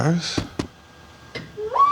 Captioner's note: thudding; whirring